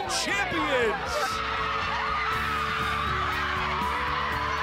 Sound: cheering; uplifting music

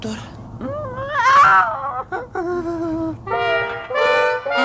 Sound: screams trembling

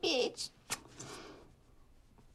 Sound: kissing sound

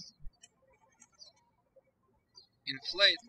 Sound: birds chirping

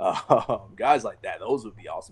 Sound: laughs

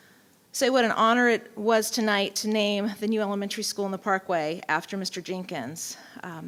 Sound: none

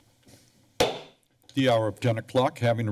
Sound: silence; gavel taps

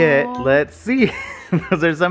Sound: laughs

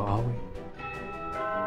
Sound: doorbell

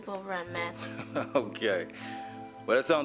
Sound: laughs

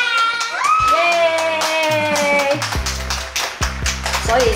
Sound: clapping

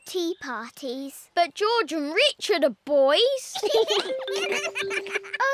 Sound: both giggle

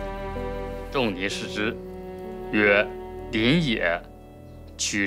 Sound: speaking Chinese

